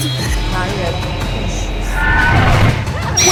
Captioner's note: Mandarin language